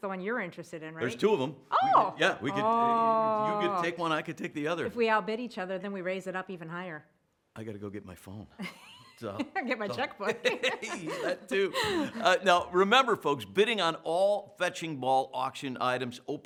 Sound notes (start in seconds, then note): 8.6 laughter; 9.1 laughs